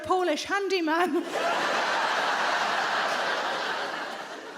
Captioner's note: audience laughs